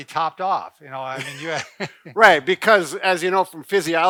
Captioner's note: chuckling